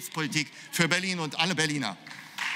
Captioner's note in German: Beifall